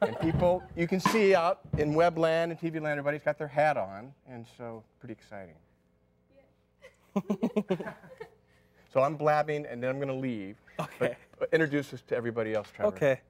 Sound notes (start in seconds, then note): 6.8 laughter